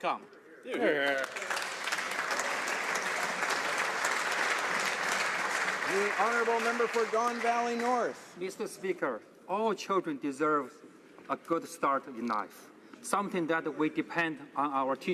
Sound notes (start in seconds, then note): 4.6 some Applause; 7.2 applause